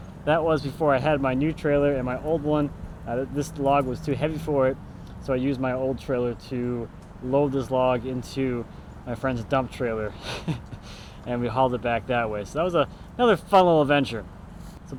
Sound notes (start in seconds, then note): 10.0 laughing